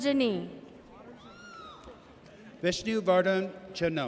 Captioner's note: audience cheers